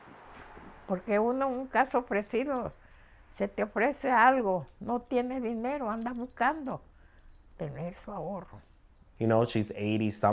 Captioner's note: speaking spanish